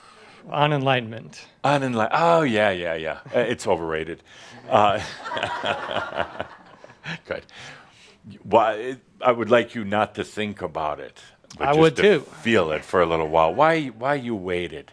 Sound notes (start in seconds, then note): 4.9 more laughter